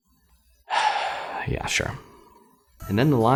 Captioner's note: sighs